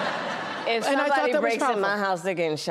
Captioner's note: laughter